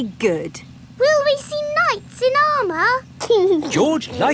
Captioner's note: giggling